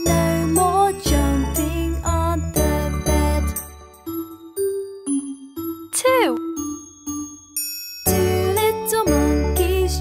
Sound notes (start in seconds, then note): 6.6 chime ringing